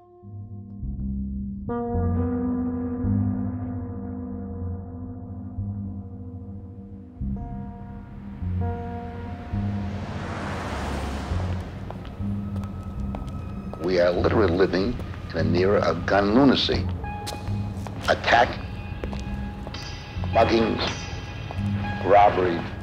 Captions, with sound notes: (bleak music) (traffic whooshing) - We are literally living in an era of gun lunacy. Attack, mugging, robbery,